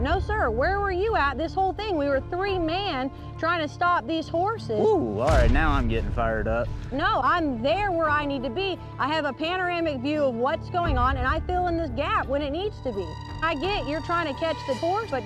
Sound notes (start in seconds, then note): none